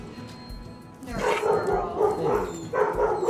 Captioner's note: dogs barking